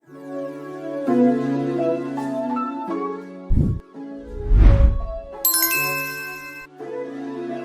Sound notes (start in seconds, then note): 0.2 bright gentle music; 4.2 frame whooshes; 4.2 logo whooshes; 5.4 bell dings; 7.4 bright gentle music